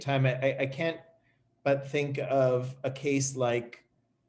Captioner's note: none